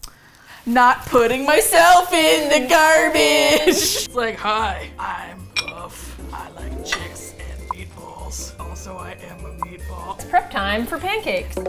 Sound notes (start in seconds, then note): 0.8 singsong; 3.5 both laugh; 11.4 rhythmic drumming